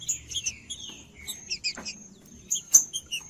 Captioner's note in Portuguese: trinca ferro cantando